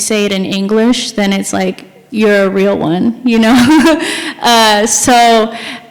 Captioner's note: chuckles